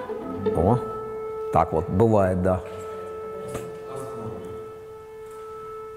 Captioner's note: an air raid alarm sounds during filming